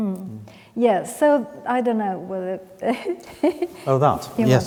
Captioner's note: laughs